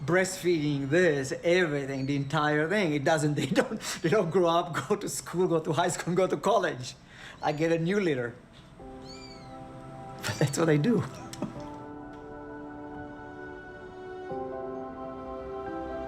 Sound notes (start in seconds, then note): 9.0 kittens mewing; 13.2 gentle chiming music